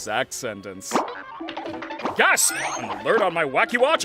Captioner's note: goofy cartoon sound effects playing